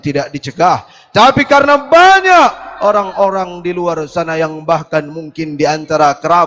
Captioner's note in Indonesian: berteriak